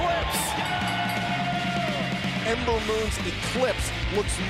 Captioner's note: bell ringing